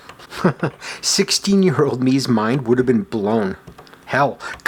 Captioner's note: chuckles